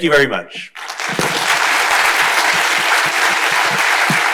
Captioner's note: crowd applauding